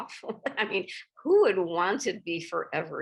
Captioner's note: chuckles